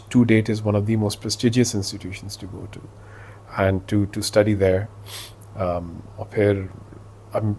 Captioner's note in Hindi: नाक से की जाने वाली आवाज़